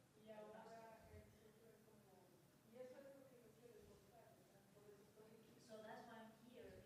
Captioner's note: woman speaks in foreign language